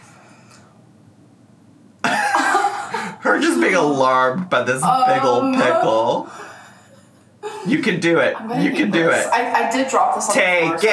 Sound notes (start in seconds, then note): 2.1 laughs